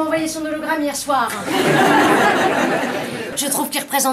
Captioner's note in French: rires